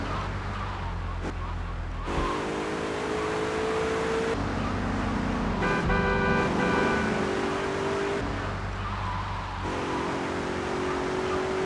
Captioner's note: sirens wailing